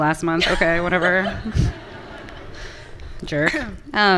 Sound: everyone laughing

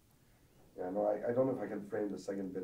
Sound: voiceover

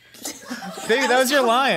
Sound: laughing

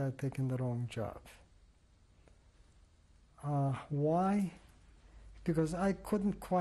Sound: pauses for 3 seconds

